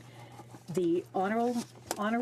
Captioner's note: speaking French